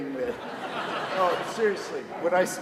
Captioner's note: orchestra laughs